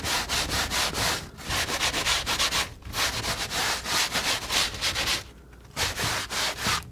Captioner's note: scratching